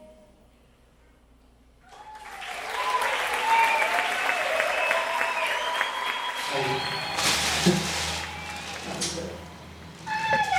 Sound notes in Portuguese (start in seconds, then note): 1.9 Aplausos